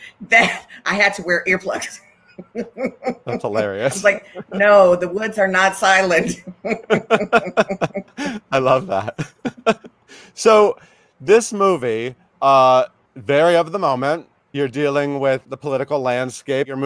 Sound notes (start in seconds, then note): 2.2 laughs; 6.2 both laughing; 9.6 chuckles